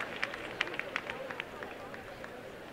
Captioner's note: applause and cheering